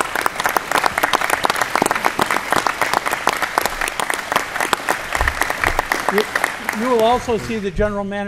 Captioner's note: applause